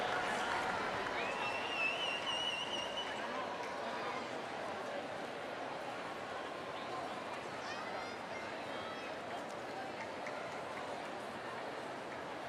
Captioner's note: applause